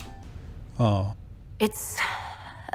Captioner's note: sigh